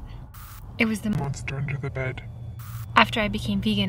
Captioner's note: static crackles; static crackles